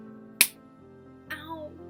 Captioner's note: slap